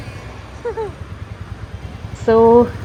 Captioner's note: giggles